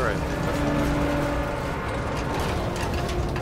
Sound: engine revs

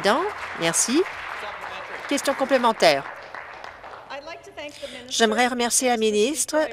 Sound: applause

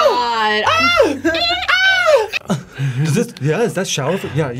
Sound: yelling

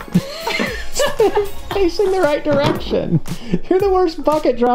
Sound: laughter

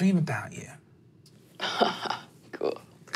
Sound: laughs

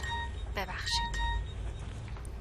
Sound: message notification

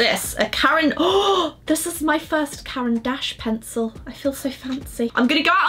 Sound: gasps

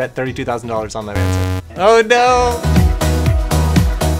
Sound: buzz

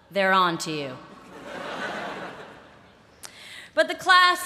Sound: laughter

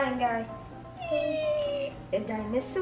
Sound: imitates dinosaur

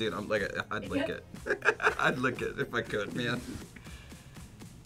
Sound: laughs

